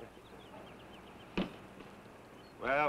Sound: boot thuds

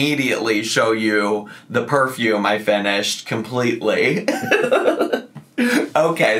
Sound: giggles

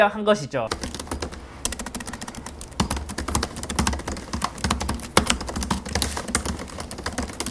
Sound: Typing sound : 16 inch MacBook Pro

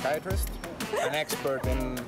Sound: laughter

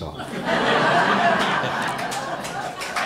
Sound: laughter

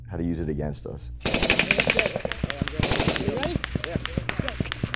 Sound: bullets firing

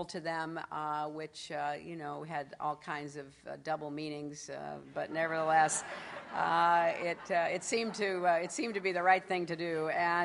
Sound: laughter

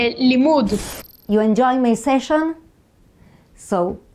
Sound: slide screeches

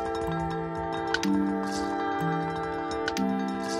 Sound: clicking and rattling

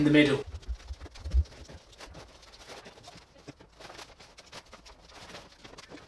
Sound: fast scurrying around noise

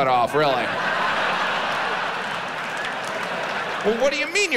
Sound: audience laughs

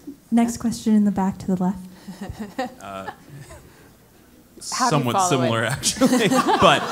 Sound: laugh; laugh

